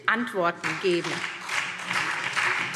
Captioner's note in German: Beifall SPD